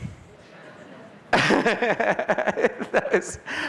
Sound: laughter

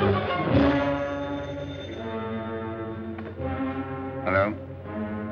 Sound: phone ringing

